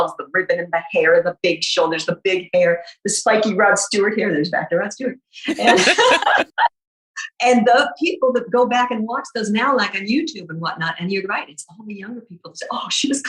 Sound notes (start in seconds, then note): 5.4 guffaw